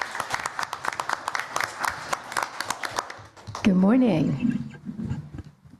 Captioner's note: applause